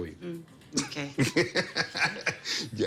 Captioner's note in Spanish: Risas